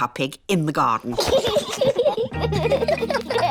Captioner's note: both laughing